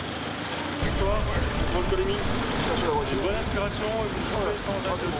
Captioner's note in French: audio parlé en français